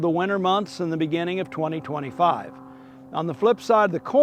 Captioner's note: airplane softly roars